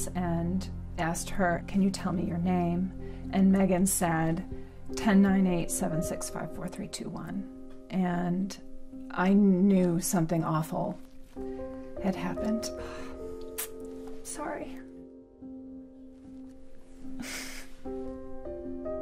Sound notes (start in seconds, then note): 13.4 clicks tongue; 16.2 somber music